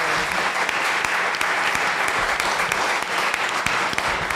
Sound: audience applause

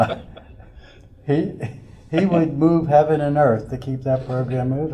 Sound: laughter

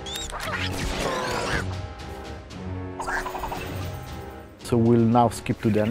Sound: video game sounds

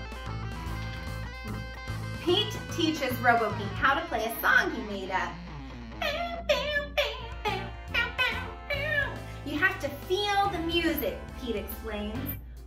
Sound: imitating guitar strums

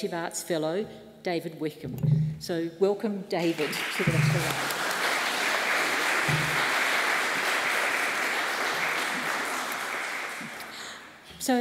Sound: applause

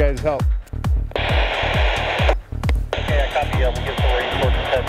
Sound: walkie-talkie static

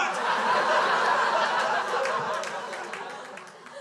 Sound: crowd laughs

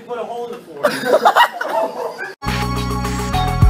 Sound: laughing

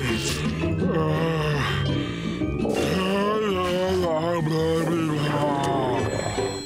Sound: groaning

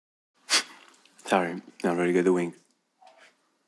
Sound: snorts

